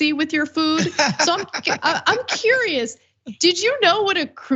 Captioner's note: laugh